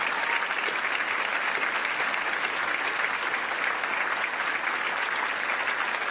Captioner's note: cheers & applause